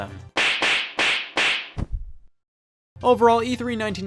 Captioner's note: sharp smacks